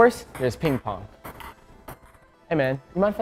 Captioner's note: ping pong balls bouncing